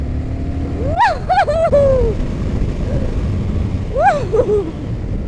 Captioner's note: whooping jubilantly